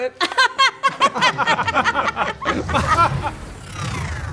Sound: all laughing

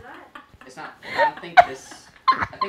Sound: both laughing

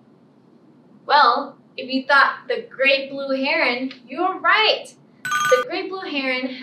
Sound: ringing bell

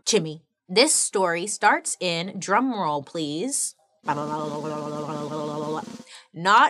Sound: imitates drum roll

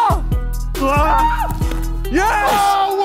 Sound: screams

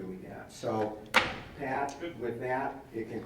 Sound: bangs hand

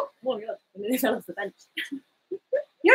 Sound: speaks quietly

